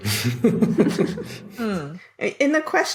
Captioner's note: snicker